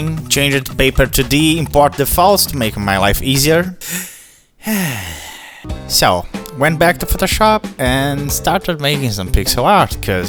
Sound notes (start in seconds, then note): 3.8 breaths heavily